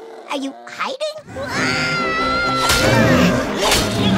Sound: screaming

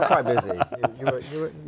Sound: laughter

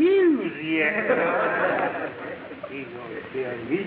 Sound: audience laughing

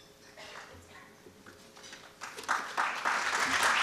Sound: applause

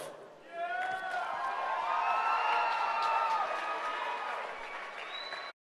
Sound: applause

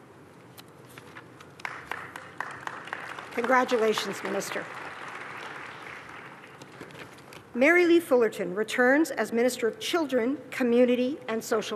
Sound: applause

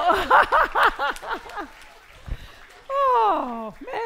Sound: laughing

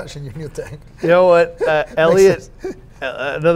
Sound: laughs

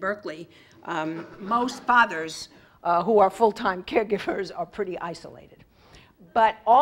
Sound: laugh

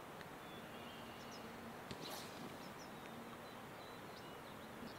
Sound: birds chirping

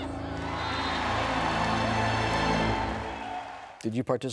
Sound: cheering

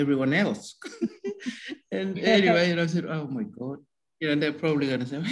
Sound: laughs

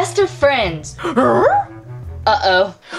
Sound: curious growl

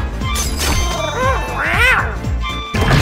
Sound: happy meows noises

